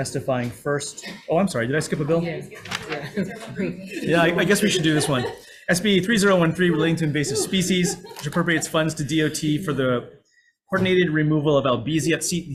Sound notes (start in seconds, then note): 2.9 chuckles